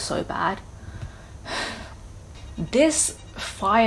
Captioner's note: sighs